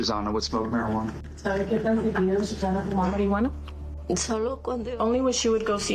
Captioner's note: interpreter and mom speaking in native language